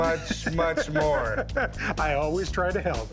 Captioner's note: laughs